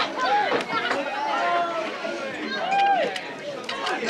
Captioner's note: shouting and talking